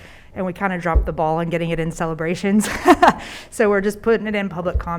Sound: laughs

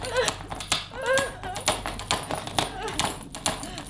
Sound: banging Continues

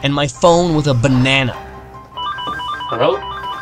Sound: phone ringing

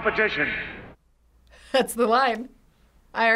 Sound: chuckles

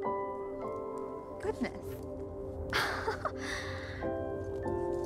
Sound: laughs

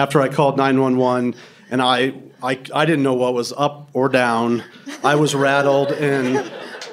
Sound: laughter

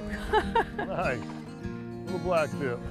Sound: laughter

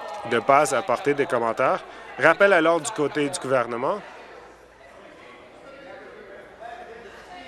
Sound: voice shouting

